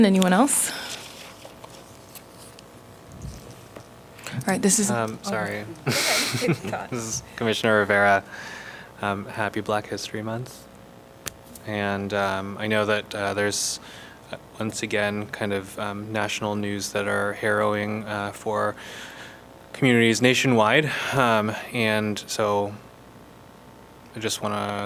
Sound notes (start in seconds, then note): 5.7 laughter